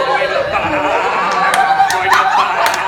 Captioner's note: overlapping goat voices